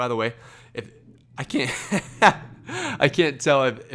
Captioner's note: laughs